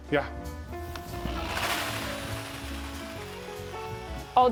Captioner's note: power drill whirring